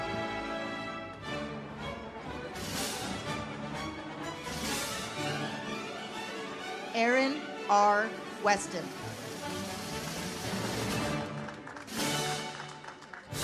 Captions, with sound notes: Erin R. Weston. (audience applauds)